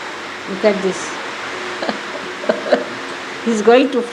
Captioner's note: rain is pouring down